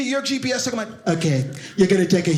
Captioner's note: imitating Donald Trump directing